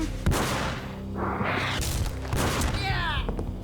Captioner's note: gunshots fire, one hits flesh